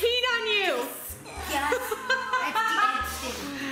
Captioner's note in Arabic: يضحك